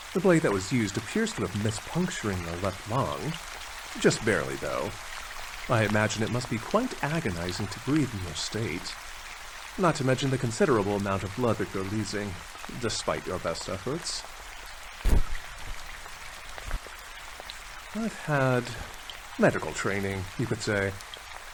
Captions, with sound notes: The blade that was used appears to have missed puncturing your left lung. Just barely though. I imagine it must be quite agonizing to breathe in your state. Not to mention the considerable amount of blood that you're losing, despite your best efforts. (annoyed rustle) I've had...medical training, you could say.